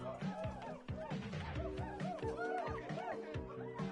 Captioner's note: crowd cheering continues